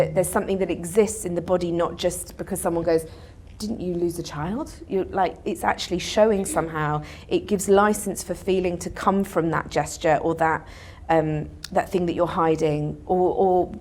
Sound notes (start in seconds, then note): none